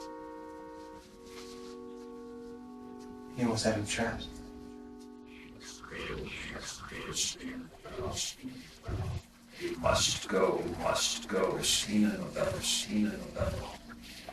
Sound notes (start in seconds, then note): 0.2 brooding music; 6.1 mysterious whispering voices; 11.7 echoing